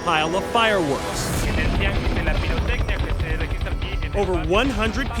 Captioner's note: man speaking spanish